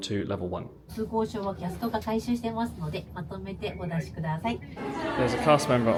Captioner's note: guest speaking in foreign language